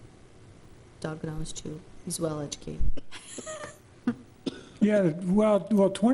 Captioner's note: laughs